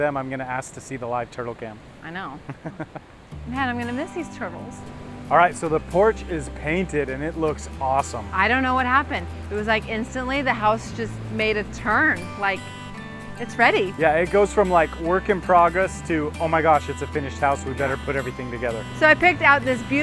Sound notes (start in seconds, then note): 2.4 laughter